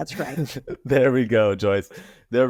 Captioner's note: laughing